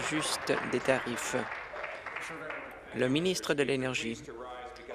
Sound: applause

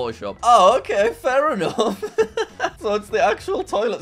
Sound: chuckles

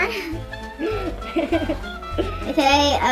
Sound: laughs

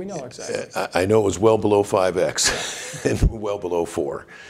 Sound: chuckles

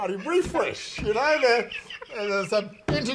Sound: laughing

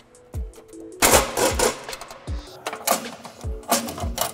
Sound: driver whirring

